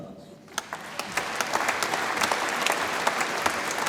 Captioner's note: audience applauds